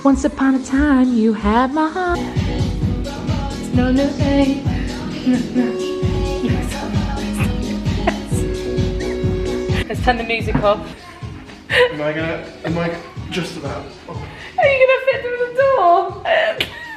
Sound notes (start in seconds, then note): 2.2 exciting dance music; 7.2 laughing quietly; 16.2 laughing